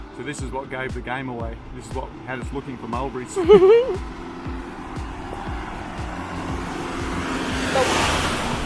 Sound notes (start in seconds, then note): 3.3 laughs